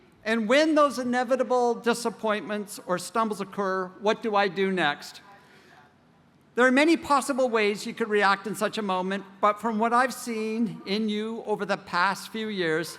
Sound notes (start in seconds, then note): none